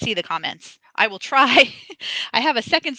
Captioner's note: laughs